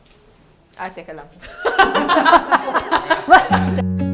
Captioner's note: laughs